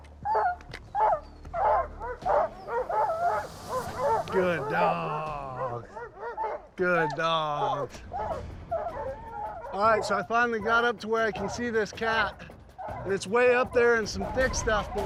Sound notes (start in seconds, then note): 0.1 dogs barking; 7.4 barking continues